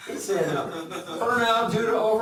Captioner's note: laughs